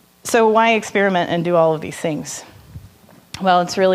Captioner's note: none